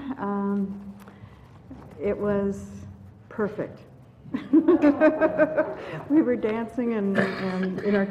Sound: laugh

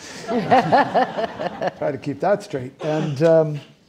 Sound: audience laughing

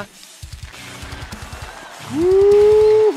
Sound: crowd applauding

